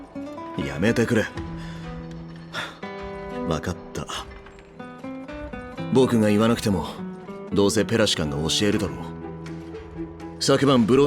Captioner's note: sigh